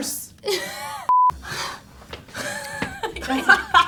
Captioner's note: laughs; laughs; sighs and laughs